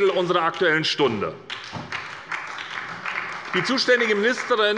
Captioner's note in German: Beifall bei der SPD